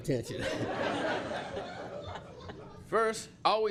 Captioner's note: laughter